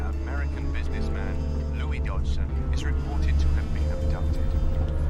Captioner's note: none